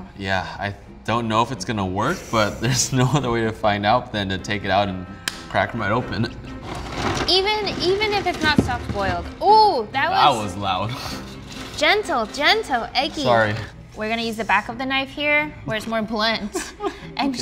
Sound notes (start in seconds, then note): 6.6 egg thuds; 16.6 laughs